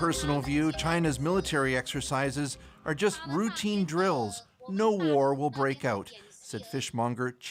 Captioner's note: speaking alternate language